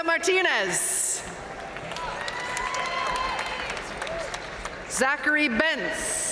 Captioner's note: audience cheering and applauding